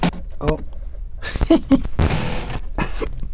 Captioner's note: laughs